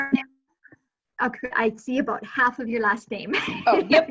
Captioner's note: laughing